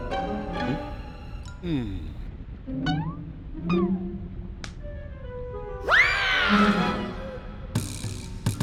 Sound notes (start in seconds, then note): 1.6 sighs; 4.3 slaps